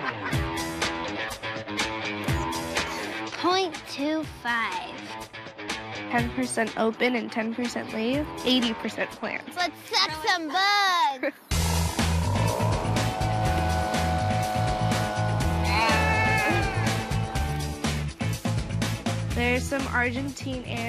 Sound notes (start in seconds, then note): 11.6 roar of the engine